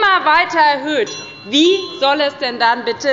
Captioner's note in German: Unruhe – Glockenzeichen der Präsidentin